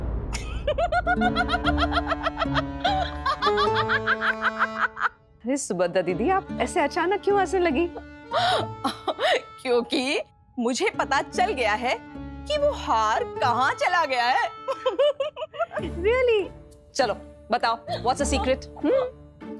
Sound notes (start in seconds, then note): 0.6 laughs